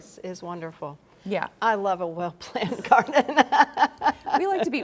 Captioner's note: laughs